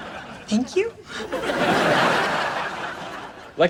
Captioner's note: laughs